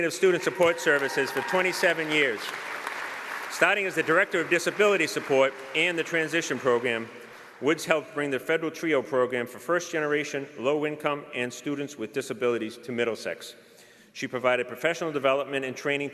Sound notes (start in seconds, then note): 9.2 applause